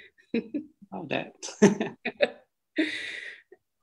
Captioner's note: laughter